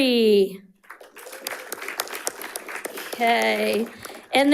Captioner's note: audience applauding and cheering